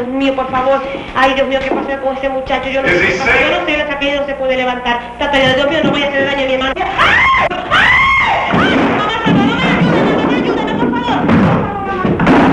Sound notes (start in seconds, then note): 7.7 the woman screams, closes the door, and hurries away; 11.3 sounds of a struggle and a fight